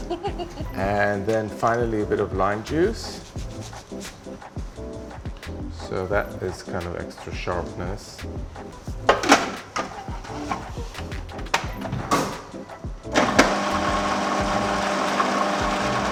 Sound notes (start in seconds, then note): 0.0 laughs; 9.0 food processor cover closes